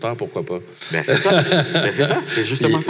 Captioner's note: laughs